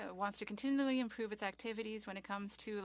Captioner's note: speaking French